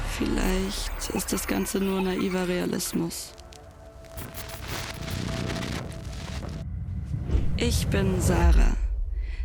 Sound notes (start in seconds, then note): 4.8 TV noise sound